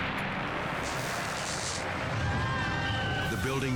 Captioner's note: electricity crackles; people yelling